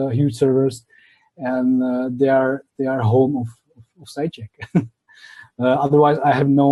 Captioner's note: laughs